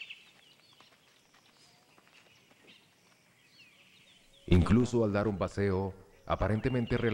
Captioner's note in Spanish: sonidos selváticos